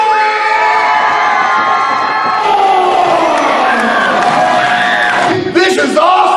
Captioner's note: crowd noise and cheering